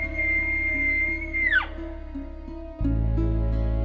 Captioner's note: calling sounds